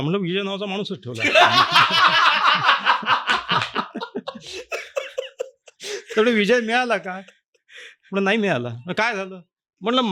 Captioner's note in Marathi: हास्य